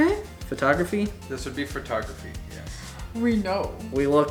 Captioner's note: male Voice